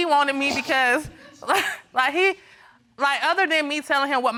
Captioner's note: chuckling